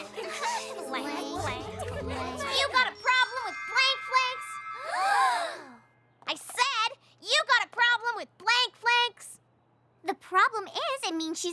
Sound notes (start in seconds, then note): 0.0 scattered laughter; 4.8 all gasp